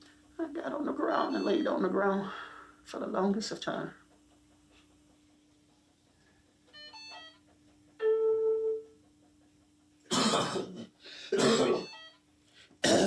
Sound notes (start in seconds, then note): 6.6 hospital machine beeping; 11.2 coughing